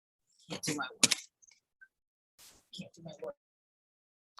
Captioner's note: attendee murmuring